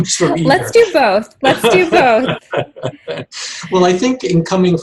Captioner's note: laughs